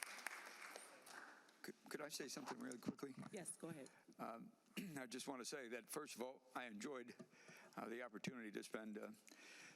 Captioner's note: applause